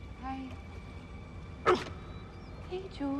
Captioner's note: Aboiement de chien